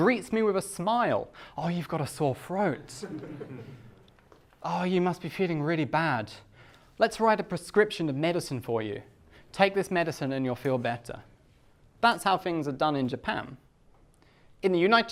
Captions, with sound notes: The doctor greets me with a smile. Ah, you've got a sore throat. (class laughs) Ah, you must be feeling really bad. Let's write a prescription of medicine for you. Take this medicine and you'll feel better. That's how things are done in Japan.